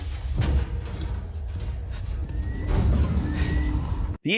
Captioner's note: metal thudding